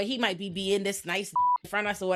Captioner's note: beep